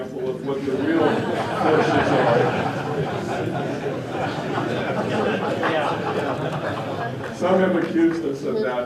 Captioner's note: laughter